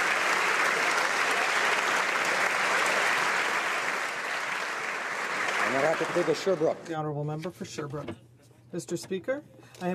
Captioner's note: applause